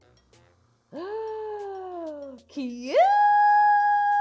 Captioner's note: gasps